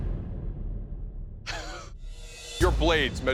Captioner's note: chuckles